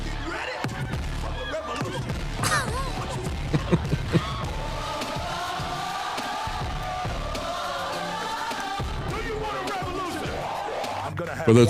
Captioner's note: upbeat Music; crowd Cheering